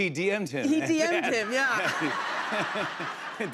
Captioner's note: laughter